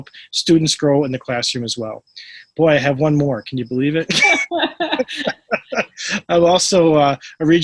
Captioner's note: laughter